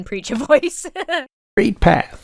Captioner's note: Emma laughs